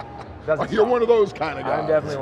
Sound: laughing

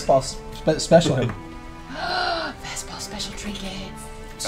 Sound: gasps

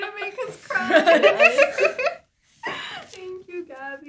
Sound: laughter

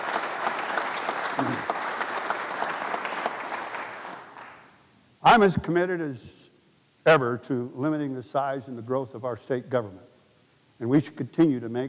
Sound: applause

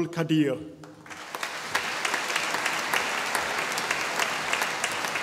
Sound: audience applauding

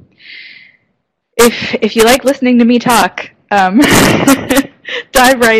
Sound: laughter

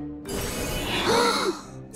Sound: gasping

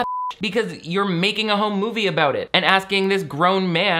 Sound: beep

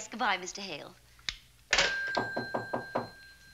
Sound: knocking on the door

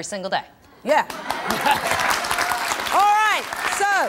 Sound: audience applauding

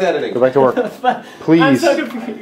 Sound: confused noises

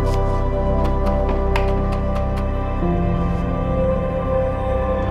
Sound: uplifting music; knife chopping

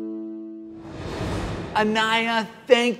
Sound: air swooshing

